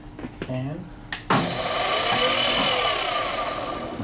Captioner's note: whirring noise